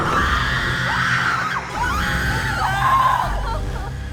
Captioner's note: all screaming; dramatic music